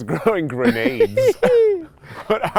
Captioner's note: laughs